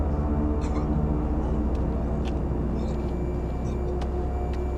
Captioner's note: retching, coughing